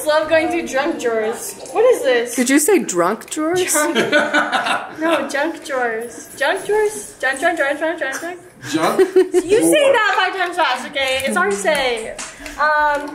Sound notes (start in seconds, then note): 3.8 laughs; 8.7 laughs